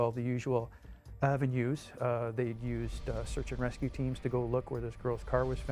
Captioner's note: voiceover